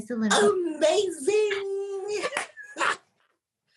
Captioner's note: cheers